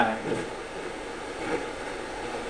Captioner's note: static sound